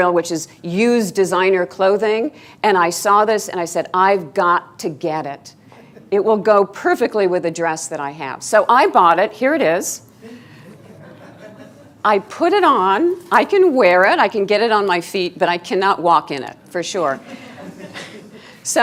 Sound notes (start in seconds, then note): 10.2 students laughing